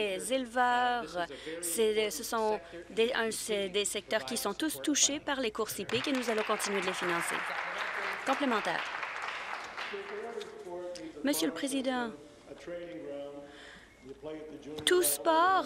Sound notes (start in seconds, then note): 8.6 applause